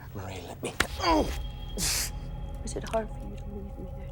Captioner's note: gasps